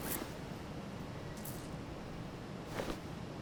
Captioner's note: beads rattle